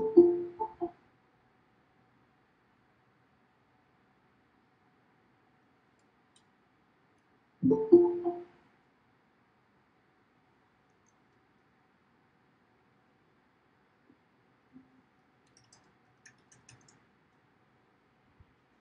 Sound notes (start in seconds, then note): 0.0 computer chimes; 7.6 computer chimes